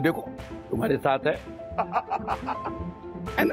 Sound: laughs

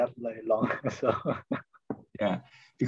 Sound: laughs

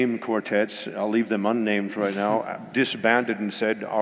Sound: none

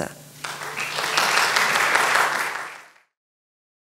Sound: audience applauds

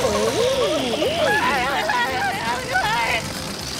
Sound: screaming

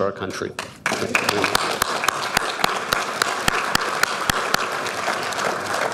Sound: audience applauding

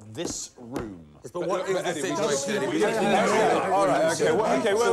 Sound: editors bickering

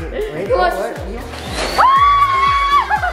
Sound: air blowing; screaming

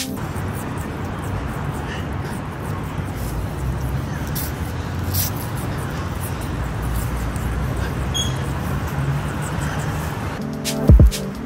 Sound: audible crunching

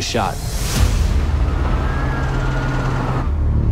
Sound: ominous music plays; sirens wailing in distance

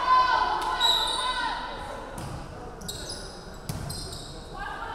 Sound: referee whistling

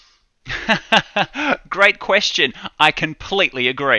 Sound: laughing

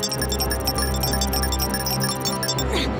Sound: beeping

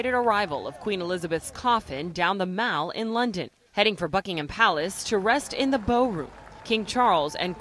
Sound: cheers and applause

